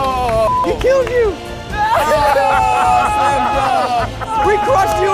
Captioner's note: hands clapping; people cheering